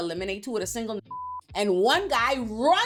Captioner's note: beep